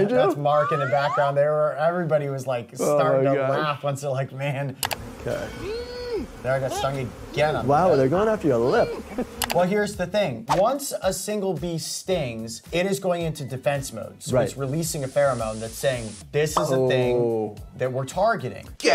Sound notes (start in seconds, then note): 5.6 coyote grunts